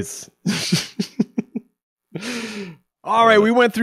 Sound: laughing

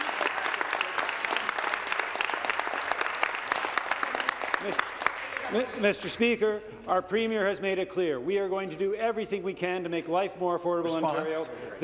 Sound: applause

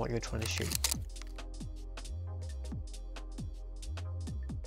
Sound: shutter clicking

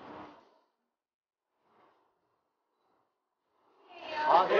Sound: bang

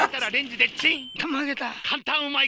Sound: speaking in Japanese

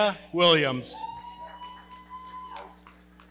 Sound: audience cheering

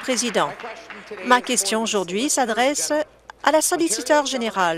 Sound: applause

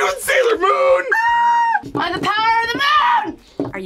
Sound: squeals

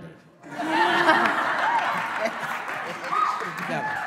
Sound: laughing

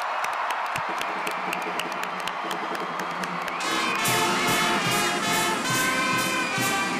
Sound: audience cheering

